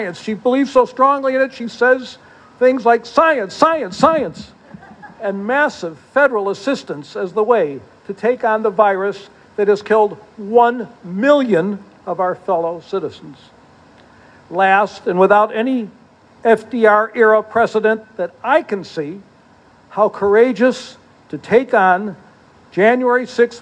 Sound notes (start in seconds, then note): 4.6 laughter